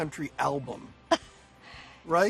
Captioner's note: laughs